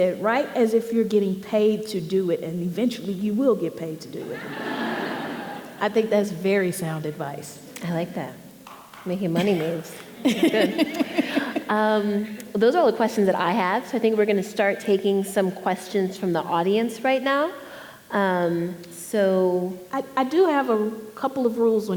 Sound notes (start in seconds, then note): 9.9 laughing